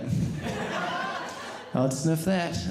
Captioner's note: audience laughing